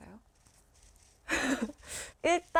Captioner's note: heheh